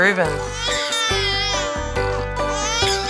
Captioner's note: baby crying